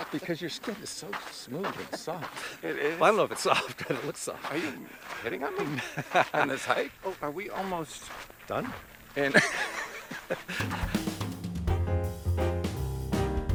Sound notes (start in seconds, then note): 9.2 both laugh; 10.5 swing music